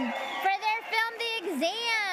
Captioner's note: audience applauding